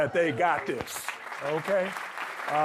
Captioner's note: audience clapping